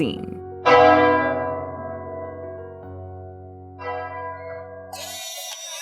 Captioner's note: clocktower ringing; "Hey its my birthday" ringtone